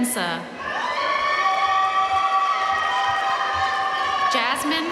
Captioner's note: audience cheering and applauding